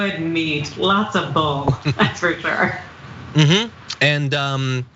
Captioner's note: laugh